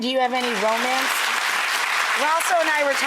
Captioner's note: audience applauds